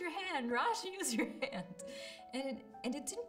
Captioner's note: laughs